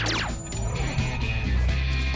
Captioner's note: laser sfx